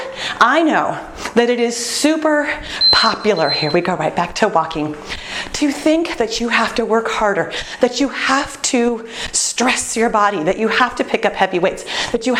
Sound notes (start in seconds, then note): 2.7 beeping